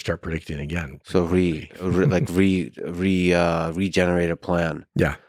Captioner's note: laughs